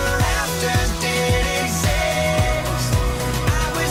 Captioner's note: whirring